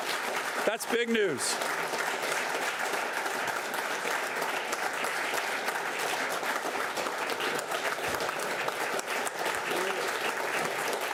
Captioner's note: applause